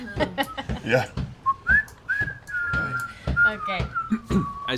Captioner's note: whistles; whistling